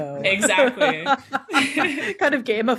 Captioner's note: all laughing